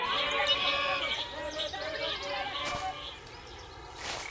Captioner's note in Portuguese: Cantos de pássaros